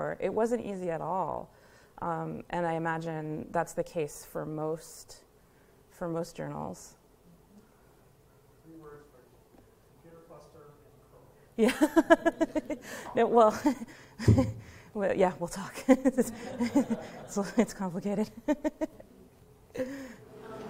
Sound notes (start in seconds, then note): 11.6 laughter